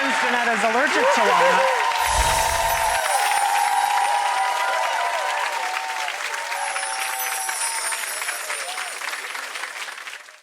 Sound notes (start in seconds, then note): 1.7 audience applauds